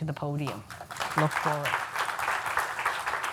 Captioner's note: applause